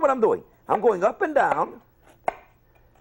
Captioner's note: chop